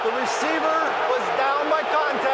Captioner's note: booing